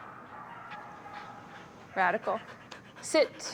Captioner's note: posh panting